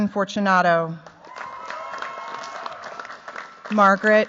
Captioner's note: cheers, applause